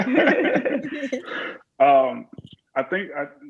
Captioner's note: laughs